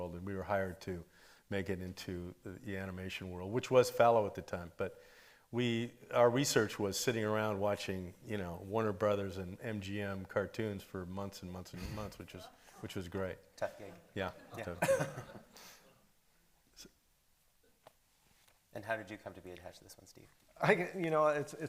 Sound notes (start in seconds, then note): 11.7 lightly chuckles; 13.8 laughs